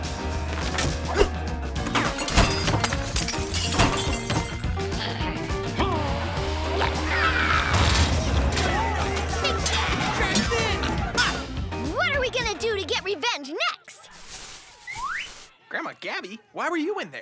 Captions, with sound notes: (glass breaking) (grunting and shouting) - What are we gonna do to get revenge next? - Grandma Gabby? Why were you in there?